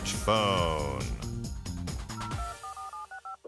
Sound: dialing

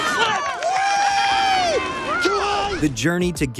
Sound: cheering

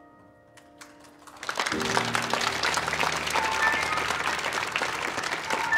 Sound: audience applauding

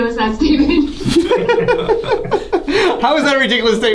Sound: laughs

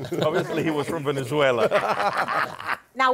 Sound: laughter

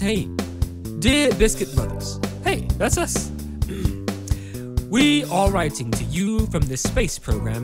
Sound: clears throat

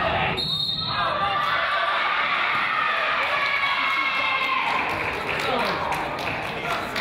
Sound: whistle blows; crowd applauds and yells

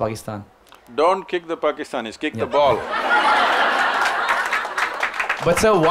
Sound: laughter/Applause

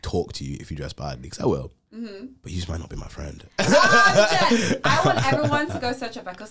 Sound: laughs

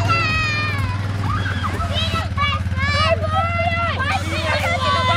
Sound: children squealing and yelling

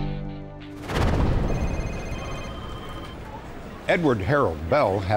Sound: phone ringing

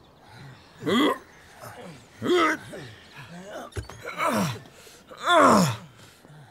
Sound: grunts

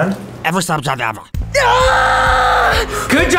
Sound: shrieking

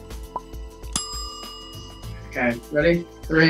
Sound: timer ding

